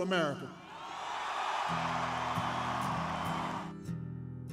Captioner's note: kalabalık tezahürat yapıyor